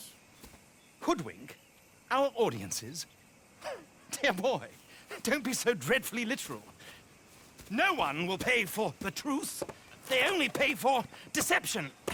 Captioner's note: laughs